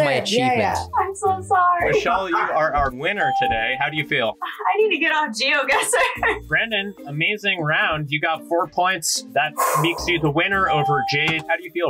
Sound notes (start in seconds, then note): 5.7 laughs